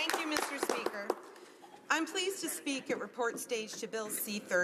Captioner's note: applause